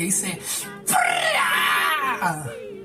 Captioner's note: weirdo noises